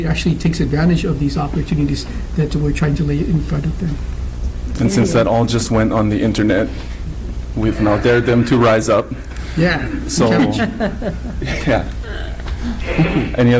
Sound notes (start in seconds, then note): 9.8 laughs